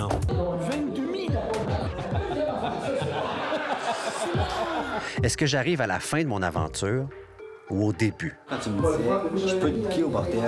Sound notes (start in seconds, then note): 3.7 laughs